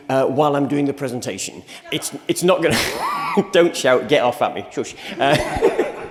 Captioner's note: laughs